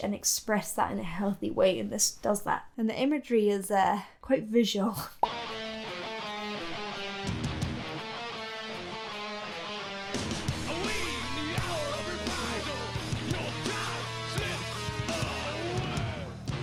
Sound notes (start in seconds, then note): 5.4 air pops; 5.4 uptempo grungy rock music